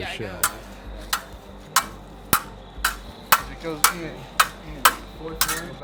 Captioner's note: swords clank on each other